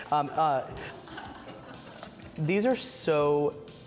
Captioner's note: laughs